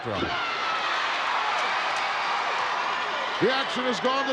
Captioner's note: crowd cheering